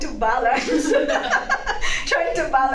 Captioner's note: laugh